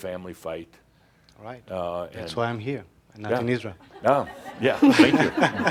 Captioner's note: laughter